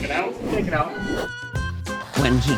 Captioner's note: text whooshing